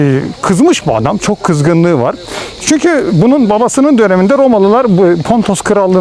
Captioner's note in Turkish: homurdanır